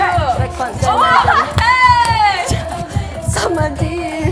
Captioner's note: intense shake